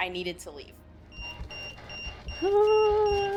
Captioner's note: EMF beeping